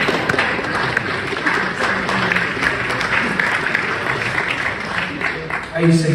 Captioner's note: applause